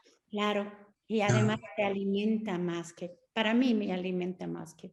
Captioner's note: Sandra speaking Spanish